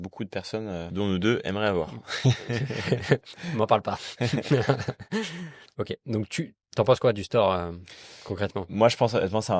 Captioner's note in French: rires